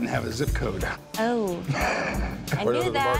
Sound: chuckles

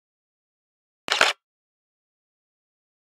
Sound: sound of camera shutter

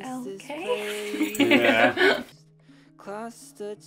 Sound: laughs

